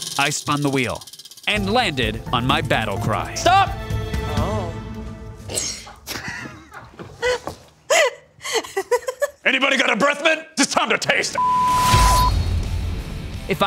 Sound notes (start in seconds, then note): 7.8 laughs